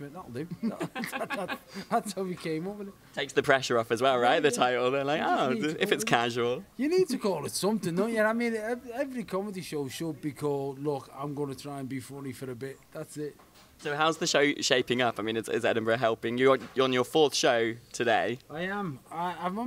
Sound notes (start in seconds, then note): 0.5 laughs